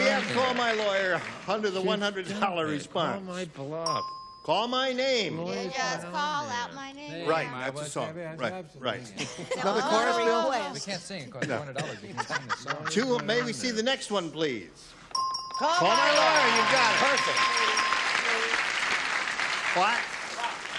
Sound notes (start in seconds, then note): 15.1 ding